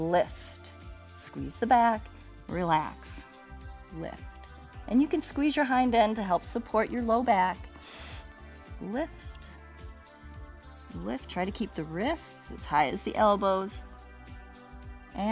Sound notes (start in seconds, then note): 7.7 inhales